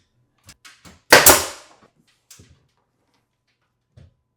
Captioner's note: nail gun popping